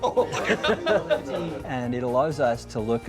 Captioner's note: laughs